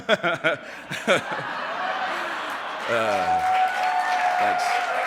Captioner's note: applause